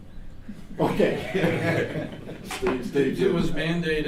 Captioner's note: laughing